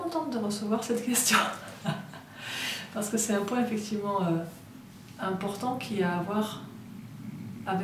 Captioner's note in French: rires